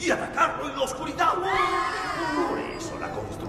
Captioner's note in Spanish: gritos de terror xD